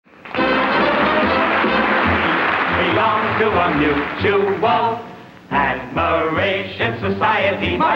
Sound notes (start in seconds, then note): 0.1 audience applauding; 0.3 upbeat music